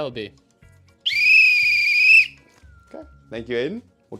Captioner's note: whistle